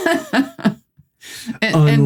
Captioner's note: both laugh